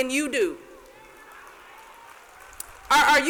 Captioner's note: light applause